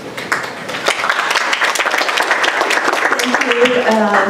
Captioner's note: applause